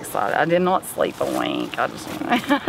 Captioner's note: laughs